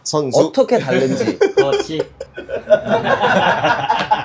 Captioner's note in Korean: 웃음